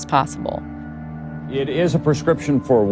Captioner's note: soundbite of archived recording